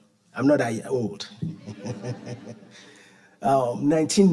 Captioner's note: audience laughing; laughing